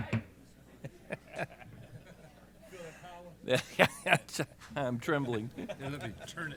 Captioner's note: laughs